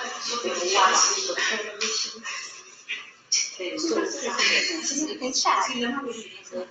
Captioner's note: students speaking in the background